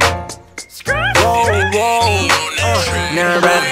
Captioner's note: woo